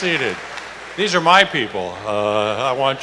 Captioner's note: applause